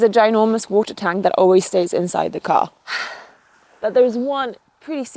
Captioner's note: exhales sharply